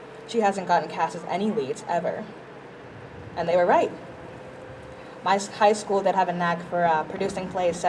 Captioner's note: none